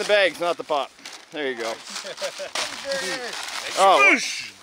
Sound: paper rustling; group chattering

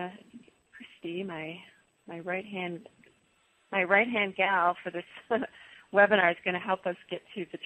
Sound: laughs

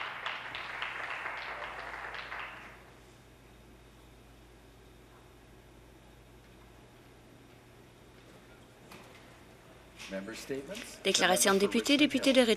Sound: some Applause

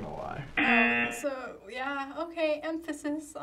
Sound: buzzer rings

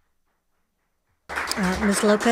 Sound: audience applauding

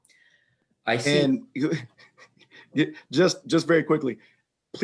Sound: chuckling

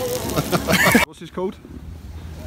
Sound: laughs

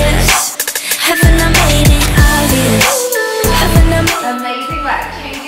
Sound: timer beeping

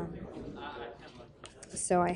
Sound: chatter

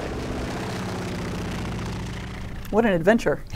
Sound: engine humming

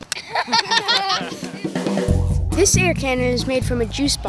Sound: all laughing

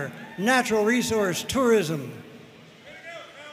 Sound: audience cheering and applauding

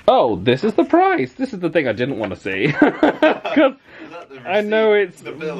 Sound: laughs

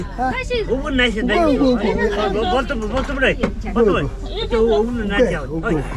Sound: man speaks mongolian

